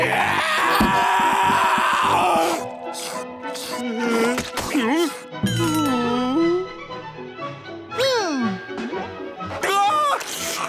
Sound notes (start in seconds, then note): 0.0 screaming; 3.6 groaning; 3.7 grunting